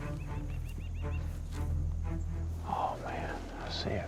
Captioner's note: whispering